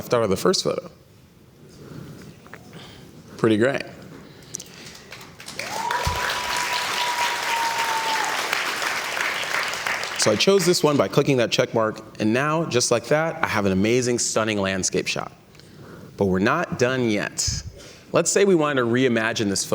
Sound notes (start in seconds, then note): 5.0 cheers and Applause